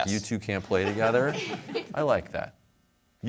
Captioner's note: laughter